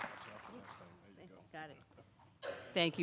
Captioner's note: audience applauding; both speaking quietly